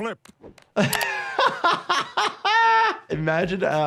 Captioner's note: laughing